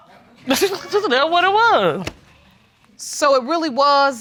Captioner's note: audience laughs; laughs